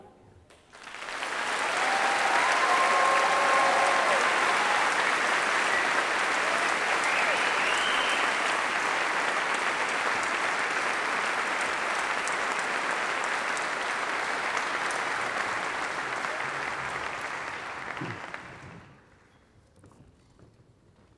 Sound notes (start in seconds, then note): 0.6 applause